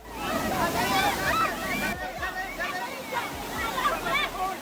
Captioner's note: people shouting